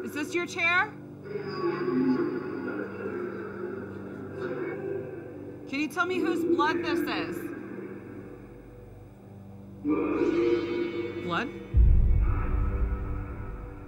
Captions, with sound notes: Is this your chair? [MUFFLED VOICE] Can you tell me whose blood this is? Blood?